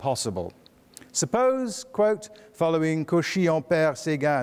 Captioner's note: speaks foreign language